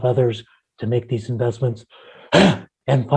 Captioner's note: coughs